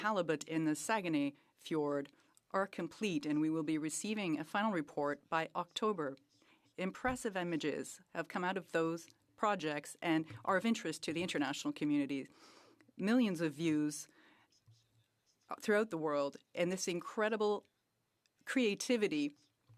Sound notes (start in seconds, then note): 1.3 speaking French